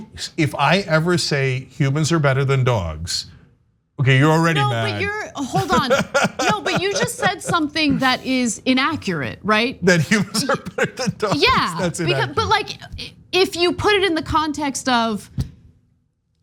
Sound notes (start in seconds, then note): 4.4 laugh